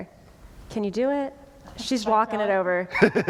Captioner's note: laughter